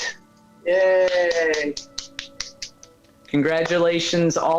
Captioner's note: clapping